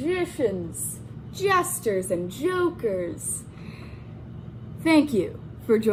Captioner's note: none